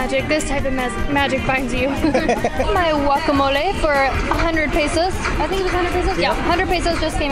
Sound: laughs

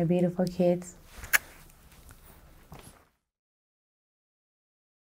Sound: lips smacking

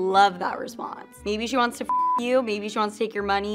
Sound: beeps

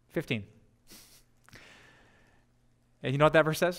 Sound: pastor: Laughter

